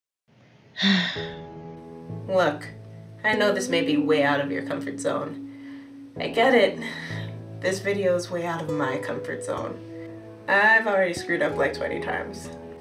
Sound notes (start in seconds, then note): 0.8 sighs